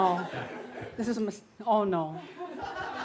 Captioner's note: laughter